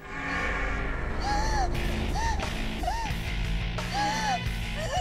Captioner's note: gasping